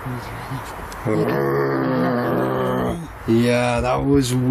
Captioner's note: growling